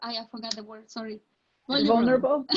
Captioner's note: hand clapping